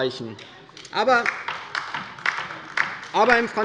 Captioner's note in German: Beifall bei der LINKEN